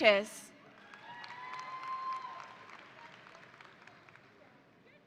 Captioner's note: audience applauding